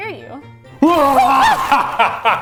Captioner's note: laughs; screams